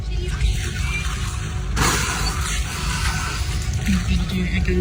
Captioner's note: background music; water spouting noise; background music